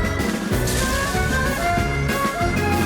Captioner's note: lightning crackles